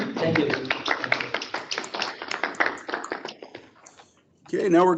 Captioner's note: group applauds